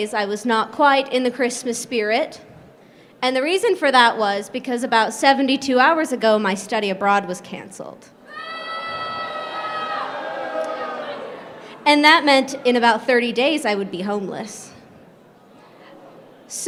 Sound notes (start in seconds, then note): 8.2 crowd booing